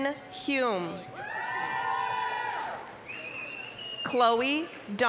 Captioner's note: applause, cheering